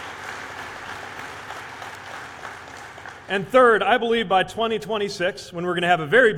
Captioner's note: applause